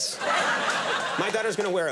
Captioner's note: audience laugh